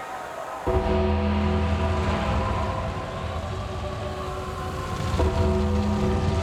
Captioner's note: fire roars; ominous music